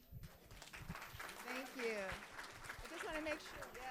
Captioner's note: audience applauding